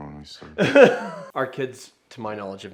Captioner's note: laughs